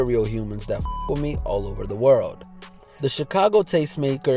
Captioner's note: beep